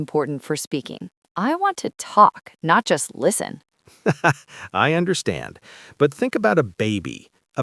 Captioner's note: laughs